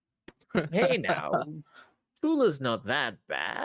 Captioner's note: laughing